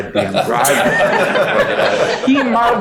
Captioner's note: all laughing